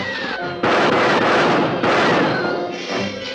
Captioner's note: gunshots